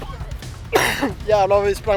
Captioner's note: cough